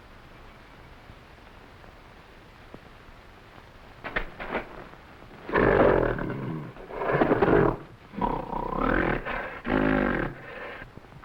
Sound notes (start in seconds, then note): 4.4 footsteps echoing; 4.4 gorilla grunting